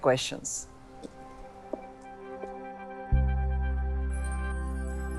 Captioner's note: footsteps clack